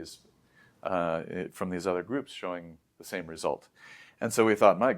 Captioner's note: inhales